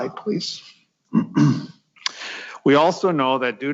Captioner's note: clears throat